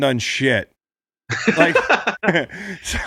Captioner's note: Sean laughs